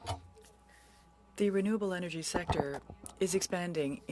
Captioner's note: speaking French